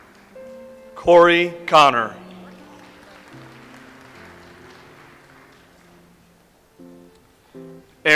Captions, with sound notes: Cory Conner. (audience applauds)